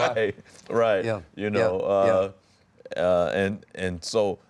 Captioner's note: laughs